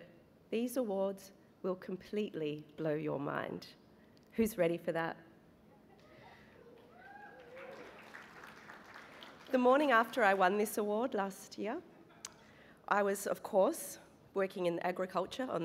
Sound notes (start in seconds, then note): 6.6 cheering and applause